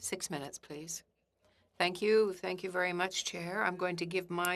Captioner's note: speaking French